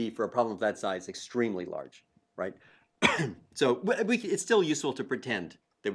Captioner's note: cough